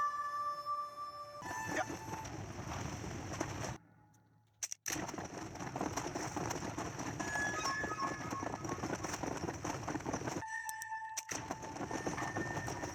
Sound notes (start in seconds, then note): 2.1 acceleration gameplay and inventory noises